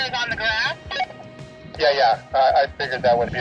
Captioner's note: walkie talkie blip